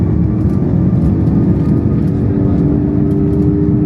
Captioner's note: jets growl